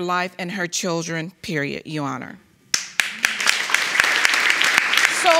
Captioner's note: audience applauding